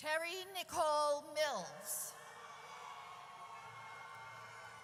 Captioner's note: audience cheers